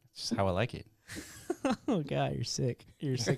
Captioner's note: laughs